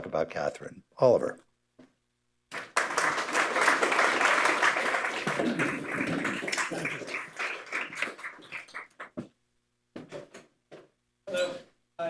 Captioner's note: applause